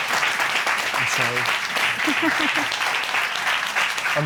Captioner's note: applause; laughs